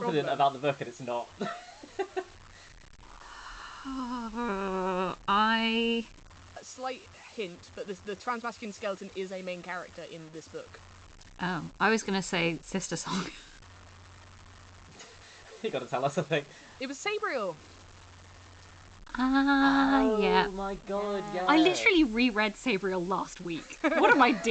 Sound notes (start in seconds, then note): 3.2 sighs